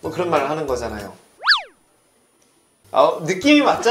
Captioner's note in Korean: 침묵